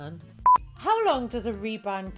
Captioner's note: beep